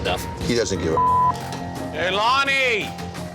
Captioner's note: beep